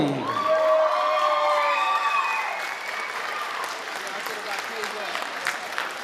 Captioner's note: audience applauding and cheering